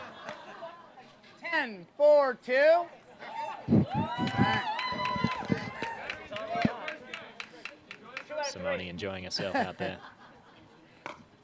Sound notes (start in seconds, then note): 3.8 laughs; 5.9 audience cheers